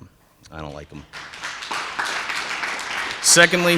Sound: attendees applauding

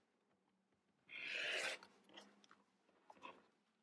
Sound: slicing

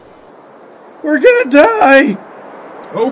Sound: screams

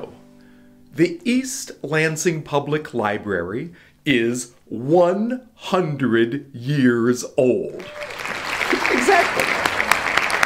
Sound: applause sounds

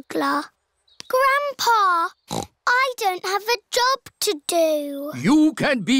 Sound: snorts

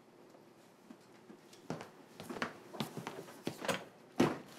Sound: footsteps

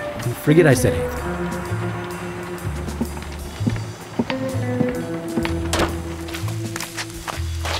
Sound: walking

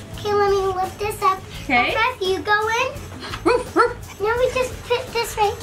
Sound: barking

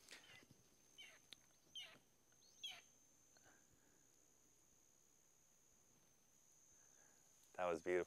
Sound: hawk cawing

